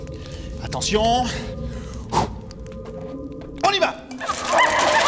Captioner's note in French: Cris de gobelins et bruits de lutte